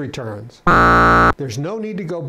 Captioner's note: buzzer